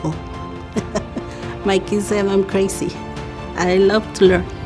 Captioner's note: laughs